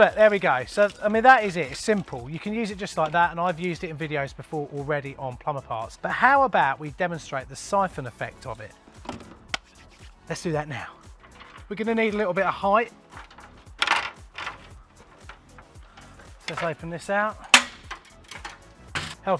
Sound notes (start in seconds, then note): 9.4 hands rubbing together